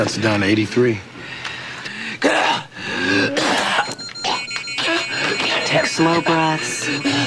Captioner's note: coughing, gagging